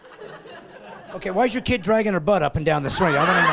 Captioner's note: laughing